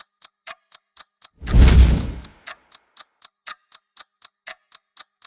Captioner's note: none